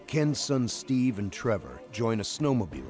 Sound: voiceover

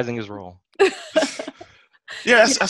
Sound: laughter

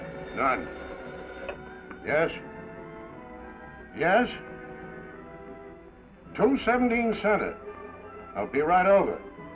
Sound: telephone ringing

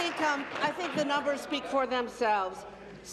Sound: applause

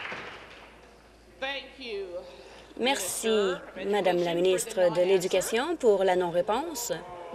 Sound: applause

